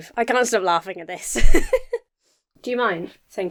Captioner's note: laughs